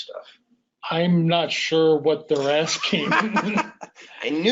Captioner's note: laughs